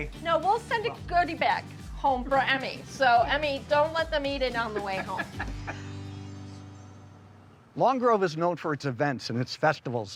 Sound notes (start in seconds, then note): 4.7 laughing